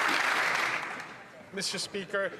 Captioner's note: some Applause